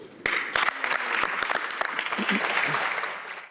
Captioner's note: applause